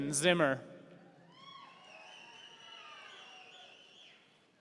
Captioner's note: audience cheering